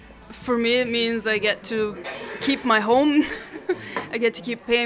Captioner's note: chuckles